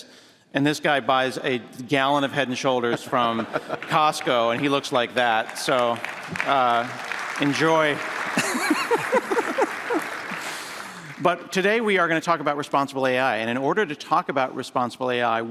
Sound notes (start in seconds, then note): 7.0 applause; 8.3 laughter